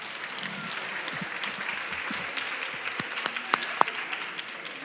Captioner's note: audience clapping